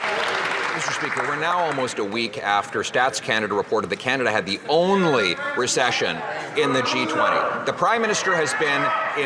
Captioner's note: some Applause